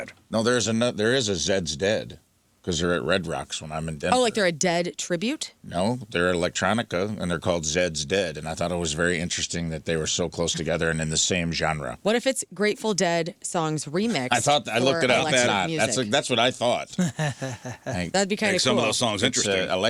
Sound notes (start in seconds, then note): 16.9 laughing